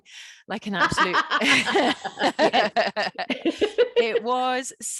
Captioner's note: laughing